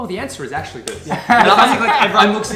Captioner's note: laughs